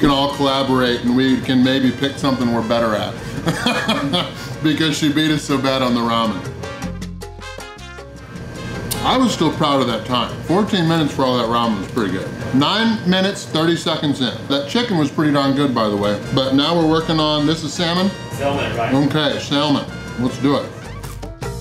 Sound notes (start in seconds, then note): 3.4 haha